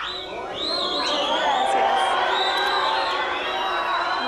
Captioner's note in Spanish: Abucheos y rechiflas